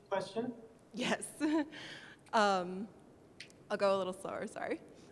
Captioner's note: voiceover